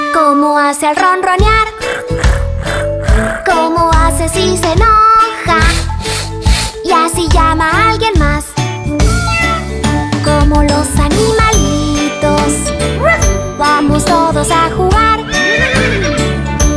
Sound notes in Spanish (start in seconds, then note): 1.7 Ronroneo; 9.0 Maullido; 12.4 Ladrido; 15.3 Sonido de relincho